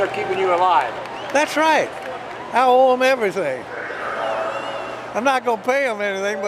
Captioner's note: laughs